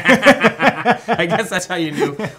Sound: both laughing

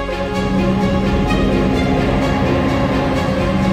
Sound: motor revving

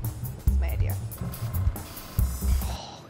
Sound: airbrush spraying

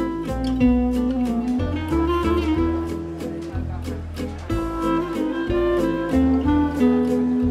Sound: restaurant ambiance

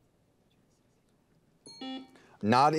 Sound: timer dings

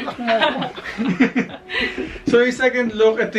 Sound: laughing

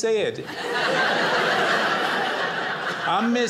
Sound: audience laughing

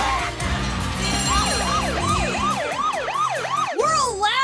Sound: alarm ringing

